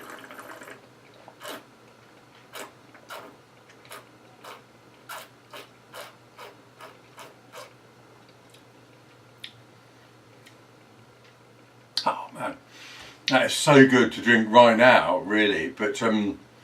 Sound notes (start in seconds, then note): 4.4 swirls and slurps around mouth extensively